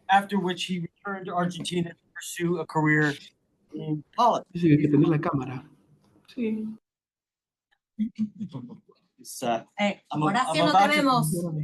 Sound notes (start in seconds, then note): 4.4 speaking in Spanish; 9.7 speaking in Spanish